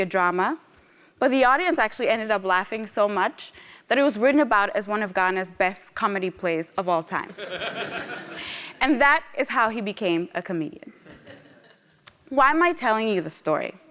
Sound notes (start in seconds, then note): 7.4 laugh